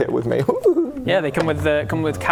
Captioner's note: loot goblin noises